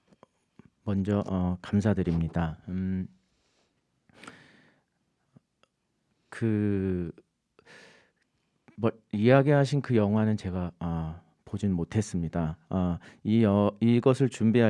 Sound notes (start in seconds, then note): 1.0 speaking in Korean